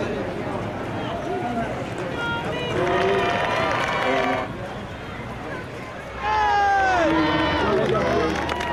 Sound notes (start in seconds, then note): 2.0 people cheering; 4.9 applause